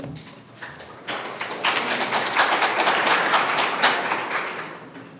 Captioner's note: audience applauds